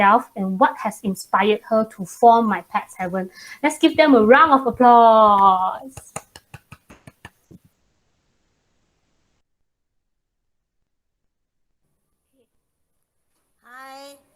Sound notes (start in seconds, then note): 5.7 clap